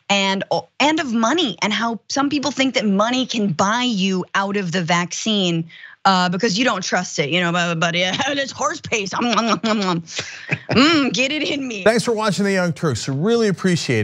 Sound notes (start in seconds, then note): 10.1 laugh